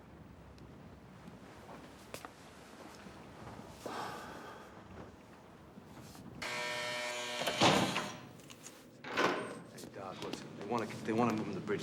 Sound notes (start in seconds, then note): 3.8 sighs wearily; 6.4 buzzing